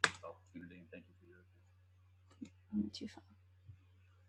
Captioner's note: speaking faintly off mic